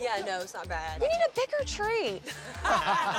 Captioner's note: laughter